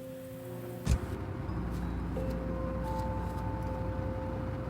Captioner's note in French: fermeture de la porte de la voiture